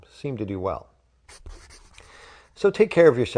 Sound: scribbling

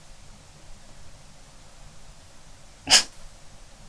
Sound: silent

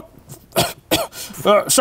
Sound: coughing

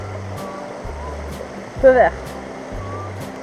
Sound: in french

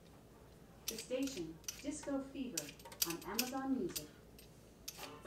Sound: computer speech

